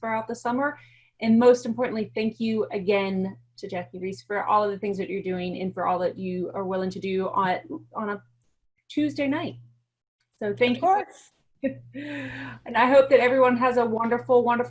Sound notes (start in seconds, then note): 12.4 laughter